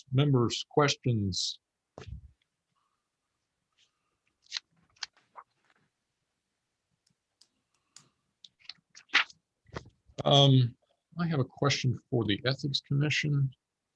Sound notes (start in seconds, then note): 4.3 papers ruffle